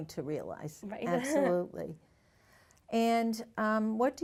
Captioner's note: chuckles